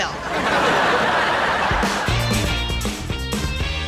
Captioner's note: audience laughs